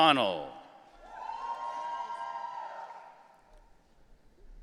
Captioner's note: audience cheering